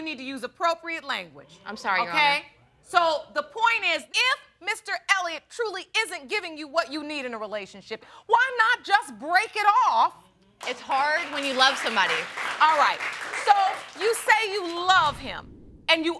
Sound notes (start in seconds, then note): 10.6 audience applauds